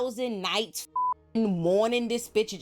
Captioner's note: beep